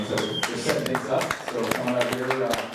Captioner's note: audience applauds